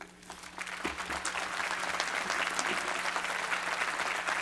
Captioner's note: applause